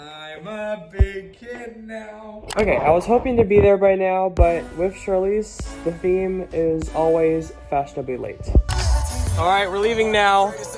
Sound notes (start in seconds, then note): 8.7 mouse Click